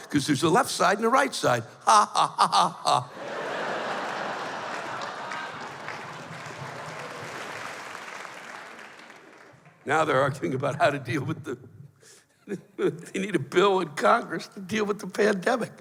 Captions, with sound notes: 'Cause there's a left side and a right side. [sing-songy] Ha ha ha ha ha. [laughter] [applause] Now they're arguing about how to deal with the... [chuckles] You need a bill in Congress to deal with the pandemic.